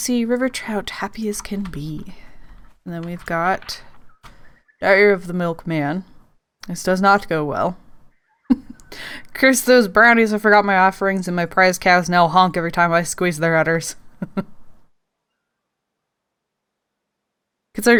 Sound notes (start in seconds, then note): 8.4 snickers; 16.9 laughs